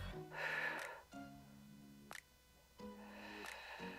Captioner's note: exhales